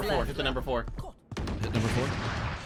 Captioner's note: gunshots in the distance